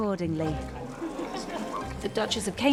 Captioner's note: Kate laughing